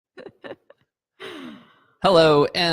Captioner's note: woman giggles